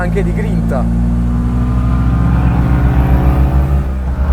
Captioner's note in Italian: Aumento giri motore